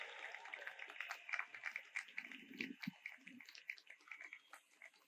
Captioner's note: audience applauds